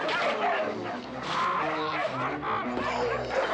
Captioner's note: men screaming